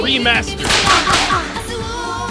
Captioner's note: gunshot